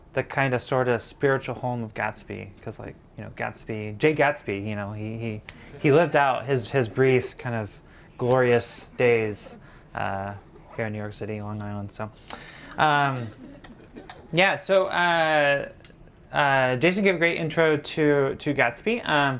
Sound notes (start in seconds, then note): 13.2 audience laughing